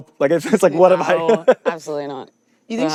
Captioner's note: laughs